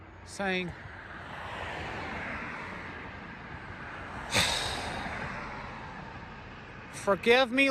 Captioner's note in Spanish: suspira